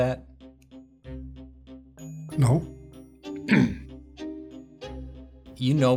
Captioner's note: throat clearing